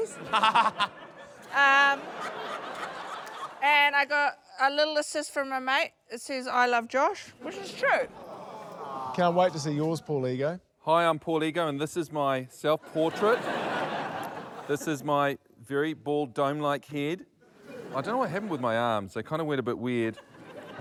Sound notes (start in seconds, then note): 0.0 laughter; 12.8 laughter